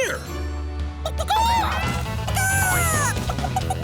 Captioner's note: clucking